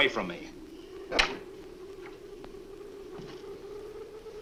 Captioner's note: door closes